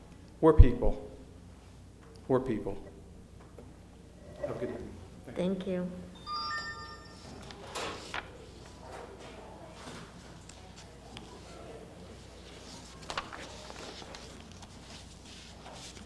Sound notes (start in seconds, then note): 7.4 door opening; 12.5 paper flipping